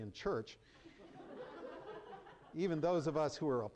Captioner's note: laughter